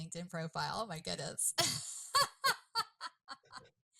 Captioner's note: laughs